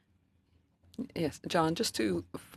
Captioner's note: speaking French